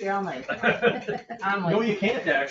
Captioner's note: all laughing